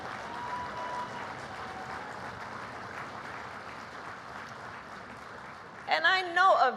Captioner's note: applause